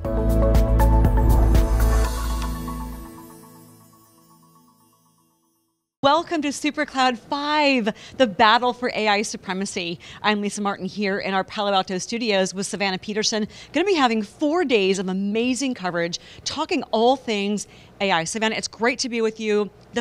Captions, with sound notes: (bright music) (logo whooshing) >> Welcome to "Supercloud 5: The Battle For AI Supremacy". I'm Lisa Martin, here in our Palo Alto studios with Savannah Peterson. Going to be having four days of amazing coverage, talking all things AI. Savannah, it's great to be with you,